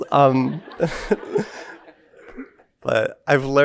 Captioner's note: audience laughing